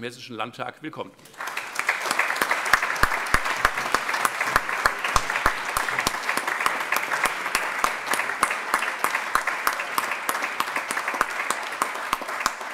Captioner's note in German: Allgemeiner Beifall